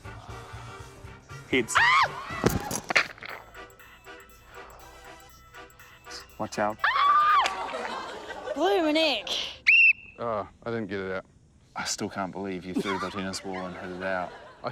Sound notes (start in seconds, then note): 2.4 blocks clatter; 7.6 screams; 9.6 blows whistle; 12.7 laughs